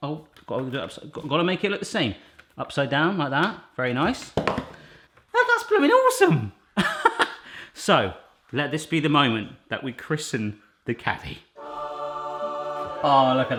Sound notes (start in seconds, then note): 6.8 laughs; 11.5 angelic music